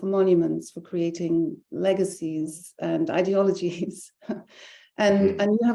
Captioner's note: laughing